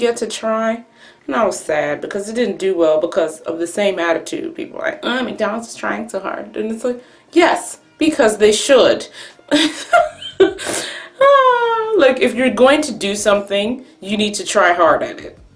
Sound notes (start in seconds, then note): 9.6 laughs at the incredulousness of this topic